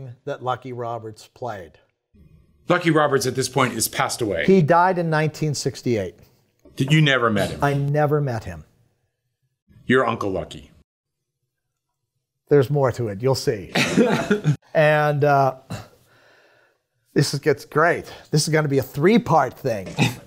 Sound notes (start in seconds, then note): 13.8 chuckles